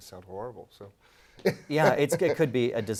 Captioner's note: laugh